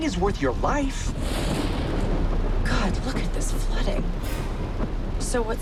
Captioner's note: thunderclap